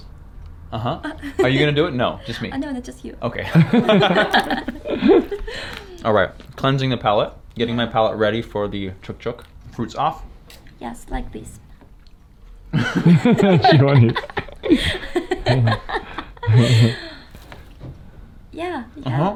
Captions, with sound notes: - Like this. - Like this. Uh huh, are you gonna do it, no, just me. - No no, just you. - Okay. (all laughing) all right, cleansing the palate. Getting my palate ready for the Chak-Chak. Fruits off. - Yes, like this. (all laughing)